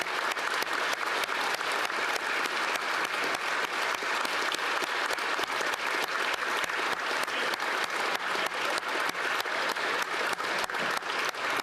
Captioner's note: applause